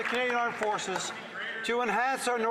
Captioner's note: some Applause